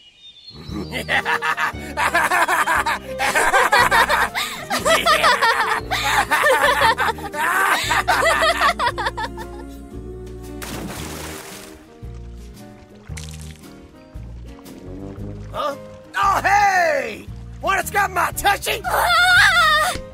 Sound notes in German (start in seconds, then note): 0.6 Ban fängt an zu lachen, Elaine dann auch; 10.5 Wasser Plätschern